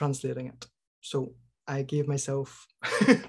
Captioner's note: laughs